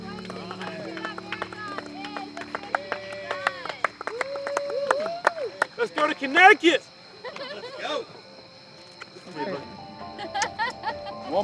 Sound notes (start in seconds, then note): 3.5 group cheering and clapping; 10.2 laughs